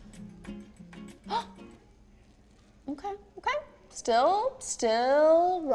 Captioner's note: gasps